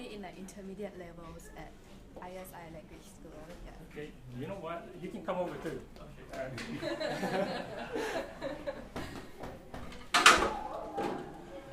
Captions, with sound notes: in the intermediate levels at ISI Language School. - Okay you know what, you can come over too. (laughter)